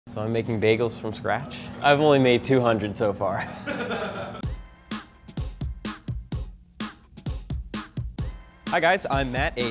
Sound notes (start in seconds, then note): 3.6 laughing; 3.7 upbeat music